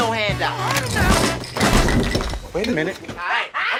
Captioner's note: gold bars clatter